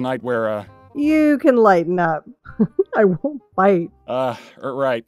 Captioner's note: chuckles